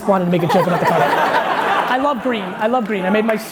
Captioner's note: laughing